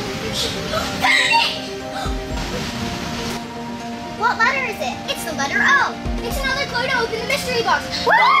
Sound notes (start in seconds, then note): 1.6 gasps